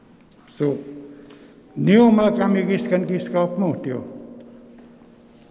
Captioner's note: speaking in Nêhiyawêwin